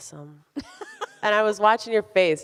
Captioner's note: laughs